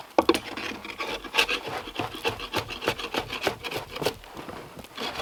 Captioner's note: drawknife scraping